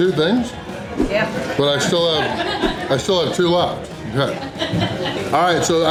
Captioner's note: crowd laughter